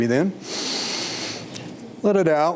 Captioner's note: inhales